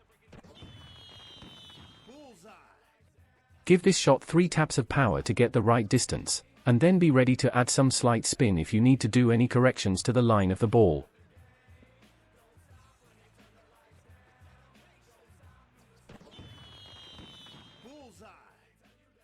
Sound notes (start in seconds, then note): 0.5 fireworks popping; 16.3 fireworks popping